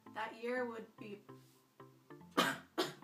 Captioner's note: coughs